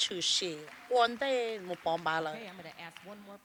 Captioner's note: applause